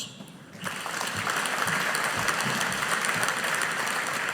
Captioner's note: audience applauding